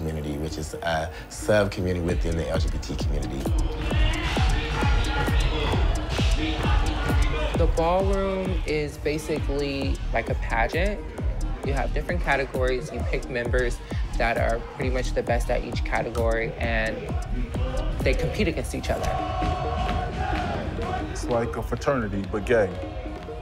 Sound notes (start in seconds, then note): 4.7 people cheer and clap